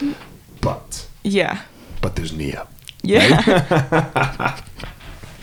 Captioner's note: laughing